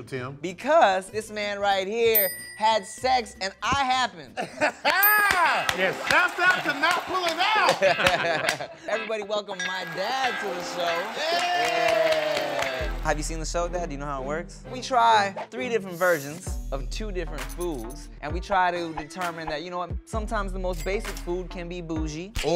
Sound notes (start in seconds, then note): 4.8 claps; 11.2 both cheering